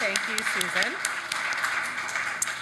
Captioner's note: audience clapping